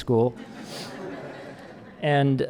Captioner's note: audience laughing